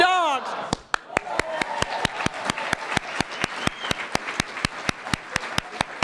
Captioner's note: applause